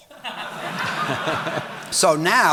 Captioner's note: audience laughing